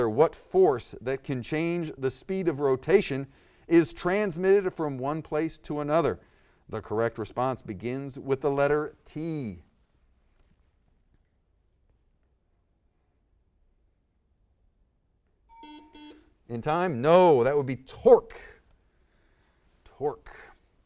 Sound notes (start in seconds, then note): 15.5 ding; 15.5 buzzer